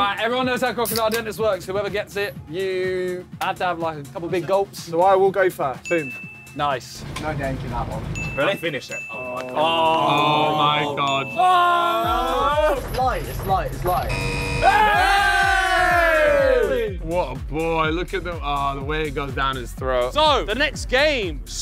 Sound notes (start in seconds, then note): 14.0 buzzer buzzing; 14.2 cheering